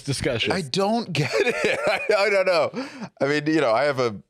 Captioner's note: laughs